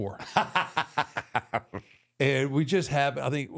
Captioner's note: Michael laughs